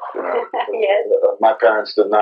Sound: laugh

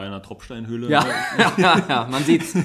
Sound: laughs

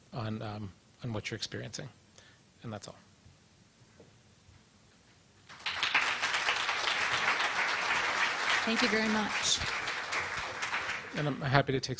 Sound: clapping

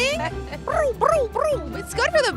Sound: rotating vocalization

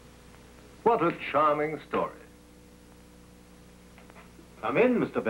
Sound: none

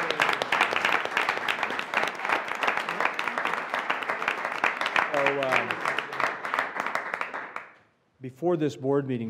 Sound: applause

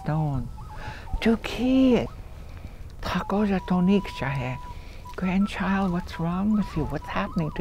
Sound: foreign language

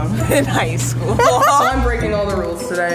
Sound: both laughing

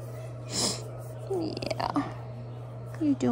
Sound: sniffs

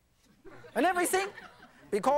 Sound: audience laughing

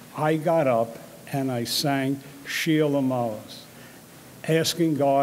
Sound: speaks in foreign language

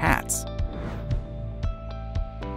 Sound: screen whooshes; bright music

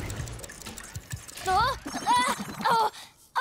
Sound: grunting

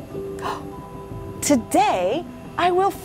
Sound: gasping

